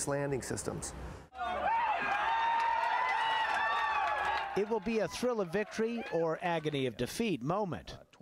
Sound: cheering and applause

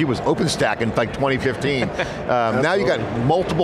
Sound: laughs

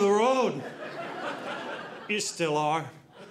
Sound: audience laughing

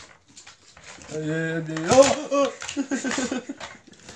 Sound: exclaiming

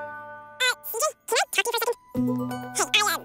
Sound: speaking fast forward

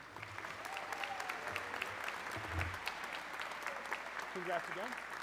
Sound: audience cheering

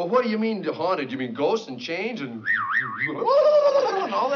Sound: imitates ghostly noises

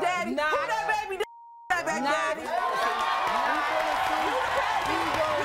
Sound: audience screaming

